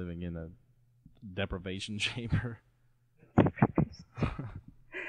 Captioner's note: laughing